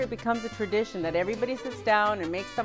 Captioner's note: in Spanish